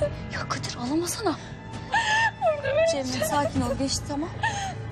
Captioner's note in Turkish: Ağlıyor